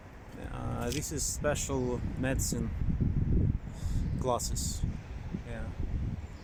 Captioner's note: in Russian